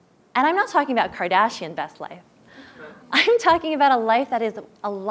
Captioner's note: laugh